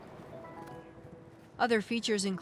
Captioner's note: computer dings